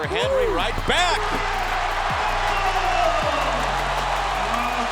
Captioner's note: cheering